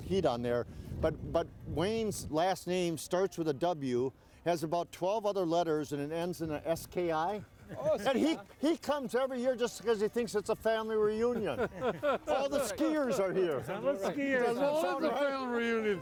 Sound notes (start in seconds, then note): 11.4 everyone chuckling